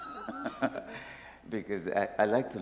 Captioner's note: laughter